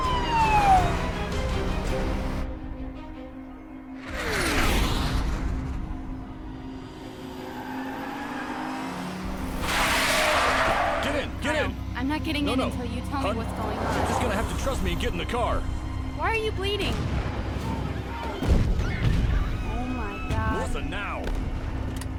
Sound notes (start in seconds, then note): 0.0 siren wailing; 4.1 jet roaring; 17.7 people screaming; 17.8 loud blasting